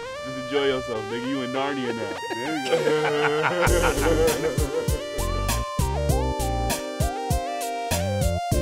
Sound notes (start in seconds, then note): 2.4 laughing